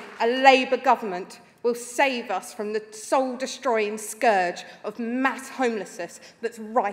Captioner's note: applause